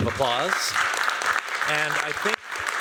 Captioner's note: applause